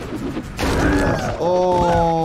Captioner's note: clashing